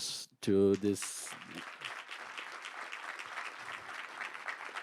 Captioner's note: audience applauding